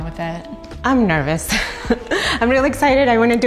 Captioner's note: laughs